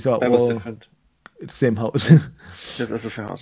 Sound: laughs

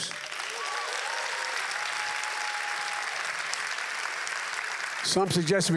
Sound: applause

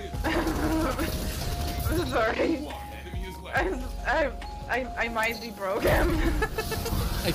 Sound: laughs

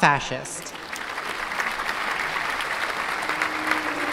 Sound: applause

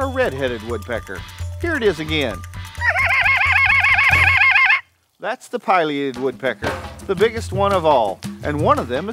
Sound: wildlife call

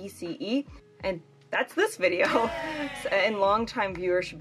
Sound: people cheering

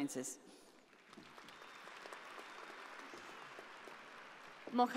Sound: audience applauding

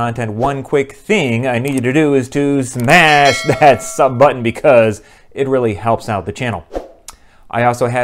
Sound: bell

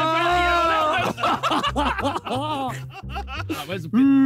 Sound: all laughing

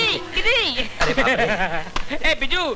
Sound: laughs

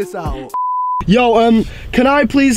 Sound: beep

